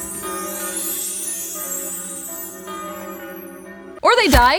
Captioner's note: church bells chiming